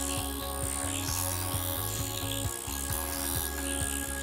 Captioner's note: machine vibrating